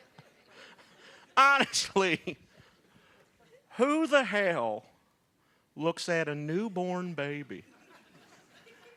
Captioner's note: laughter